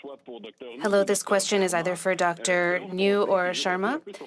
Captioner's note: speaking French